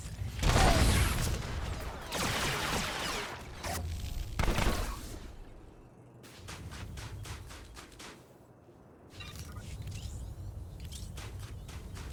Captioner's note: gunshots